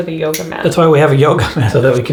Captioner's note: chuckles